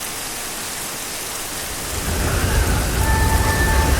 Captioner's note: rainstorm